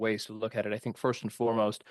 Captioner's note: speaking French